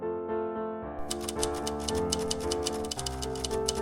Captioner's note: keyboard types; piano music